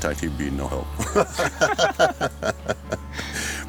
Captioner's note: laughs